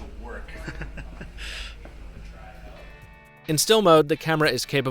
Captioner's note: man laughing